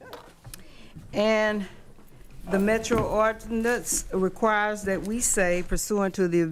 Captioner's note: microphone turns on